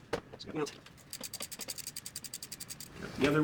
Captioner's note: ticking